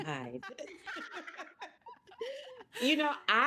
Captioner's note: all laughing